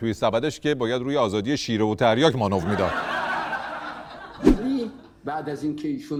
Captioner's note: laughter